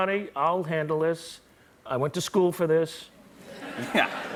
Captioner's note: laughter